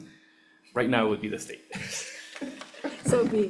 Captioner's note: laughs